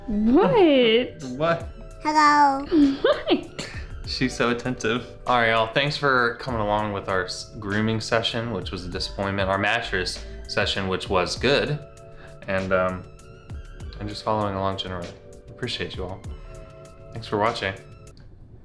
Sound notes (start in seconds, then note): 2.4 cartoon voice; 2.6 laughs